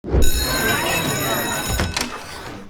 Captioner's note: school bell rings, murmuring of classroom